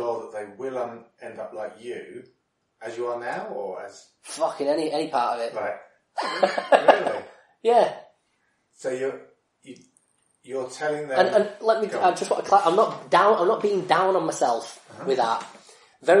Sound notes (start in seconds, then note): 6.2 laughs